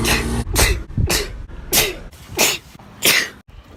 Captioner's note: sneezes in regret; sneeze